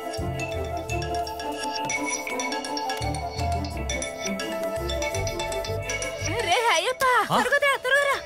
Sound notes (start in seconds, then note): 0.1 phone rings